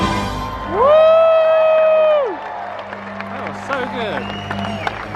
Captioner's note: audience cheering